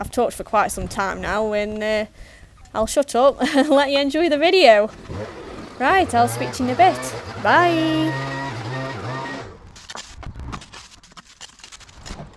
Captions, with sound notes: I've talked for quite some time now and I'll shut up and let you enjoy the video. [laughs] Right, I'll speak to you in a bit Bye.